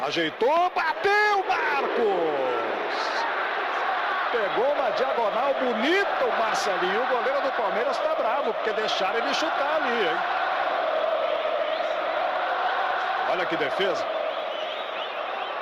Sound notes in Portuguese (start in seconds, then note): 12.4 aplausos